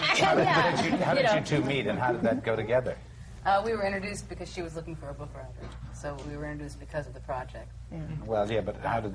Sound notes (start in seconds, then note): 0.0 laughter